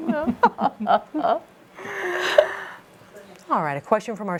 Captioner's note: laughing